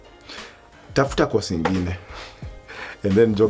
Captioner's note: dad's voice